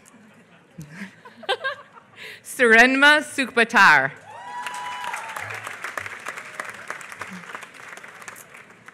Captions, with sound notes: Surenmaa Sukhbaatar. [APPLAUSE]